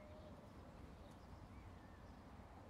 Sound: none

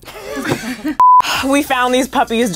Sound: laughing; beep

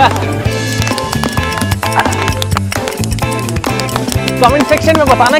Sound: clapping

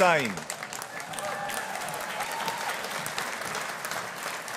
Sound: audience applauding

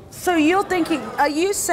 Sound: audience gasps

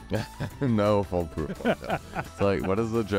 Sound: laughs

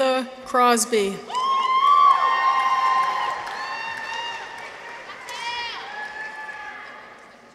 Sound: people cheer; audience applauds

